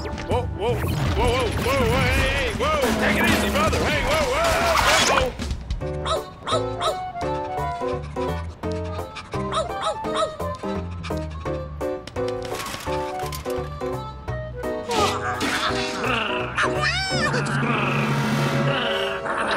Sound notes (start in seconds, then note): 10.5 panting; 14.5 yawns; 17.4 growls, barks